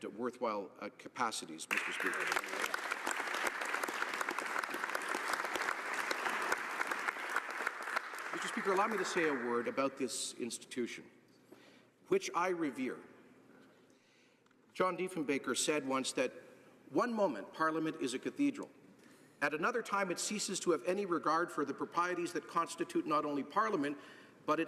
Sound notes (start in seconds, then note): 9.5 applause